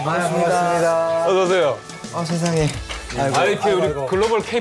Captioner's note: nervous